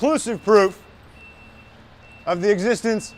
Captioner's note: truck alarm beeping